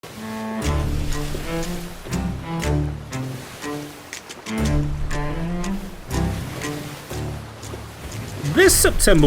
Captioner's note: crashing Waves